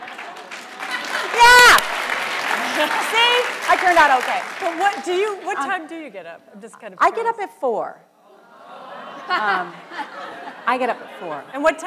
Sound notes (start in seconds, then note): 0.0 audience applause; 0.7 laughs; 8.8 audience groans